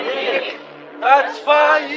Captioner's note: chanting